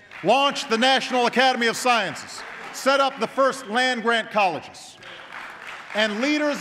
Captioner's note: applause